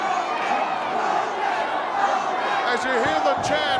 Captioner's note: crowd cheering